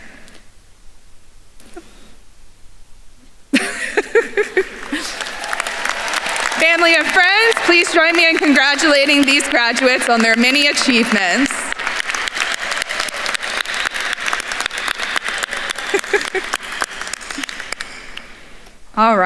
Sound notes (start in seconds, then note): 3.5 laughs; 5.3 attendees cheering and applauding; 12.2 attendees applauding; 15.6 laughs